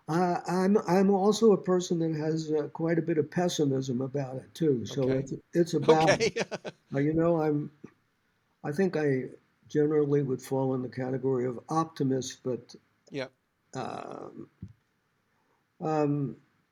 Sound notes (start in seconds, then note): 5.8 laughs